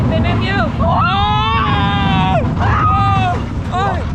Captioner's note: screams